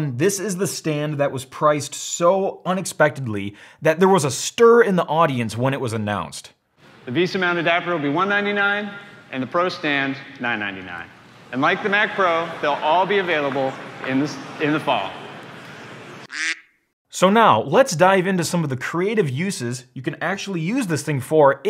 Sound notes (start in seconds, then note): 10.8 crowd murmurs; 16.2 quack